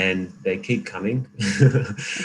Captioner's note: laughing